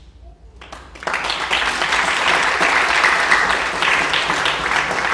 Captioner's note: audience clapping